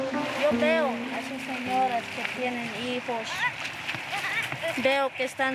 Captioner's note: speaking in foreign language